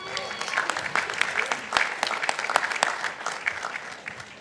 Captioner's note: participants applauding